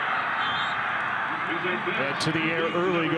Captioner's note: referee blows whistle